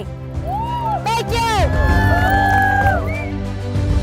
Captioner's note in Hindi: तालियाँ